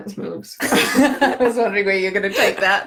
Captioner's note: laughing